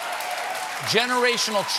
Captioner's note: applause